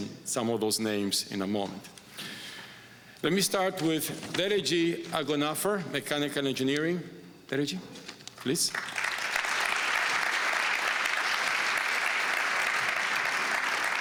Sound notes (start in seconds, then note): 8.6 applause